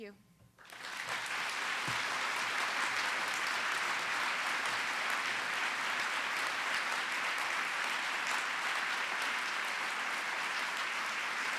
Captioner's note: applause